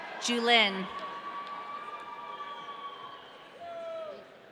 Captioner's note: audience cheering